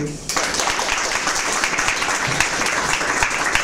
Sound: applause

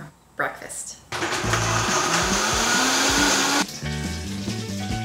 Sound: blending whirring

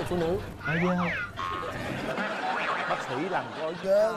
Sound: laughing

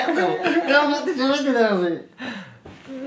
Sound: just laughs

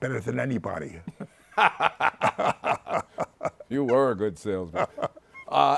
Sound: both laughing

